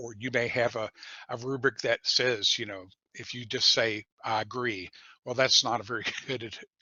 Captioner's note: laughter